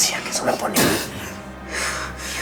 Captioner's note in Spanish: Sonido al escupir